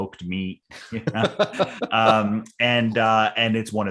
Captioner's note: laughing